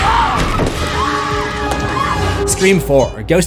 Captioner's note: screams